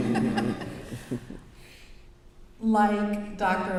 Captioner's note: brief laughter